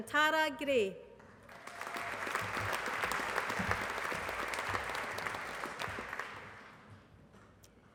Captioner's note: applause